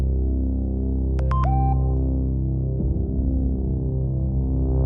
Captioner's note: phone chiming